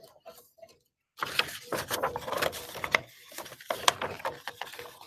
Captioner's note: paper crinkling